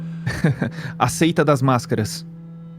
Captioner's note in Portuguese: risada ironica